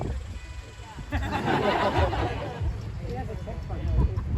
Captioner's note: laughter